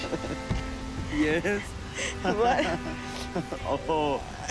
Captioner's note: chuckles